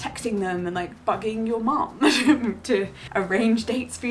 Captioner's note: laughs